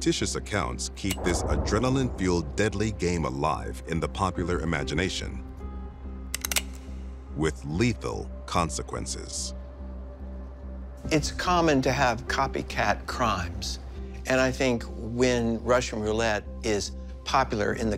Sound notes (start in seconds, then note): 6.3 magazine clicks